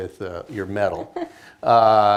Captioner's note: laughs